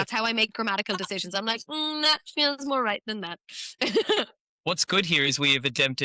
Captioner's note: laughs